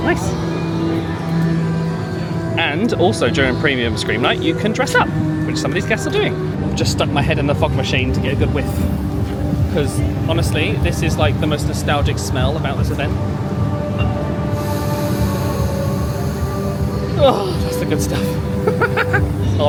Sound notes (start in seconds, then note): 14.5 inhales deeply; 19.0 laughs